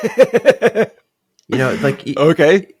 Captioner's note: laughs